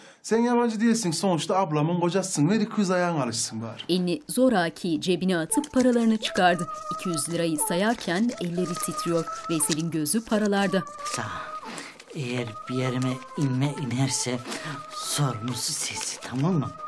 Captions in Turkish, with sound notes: ...sen yabancı değilsin, sonuçta ablamın kocasısın, ver 200 ayağın alışsın bari. (Kağıt para hışırtı sesleri) Baksana... ...eğer bir yerime inme inerse... ...sorumlusu sensin, tamam mı?